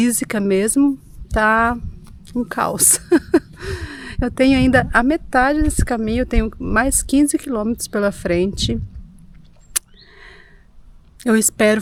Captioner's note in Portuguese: risadas